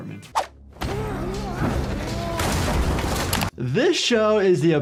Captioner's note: people grunting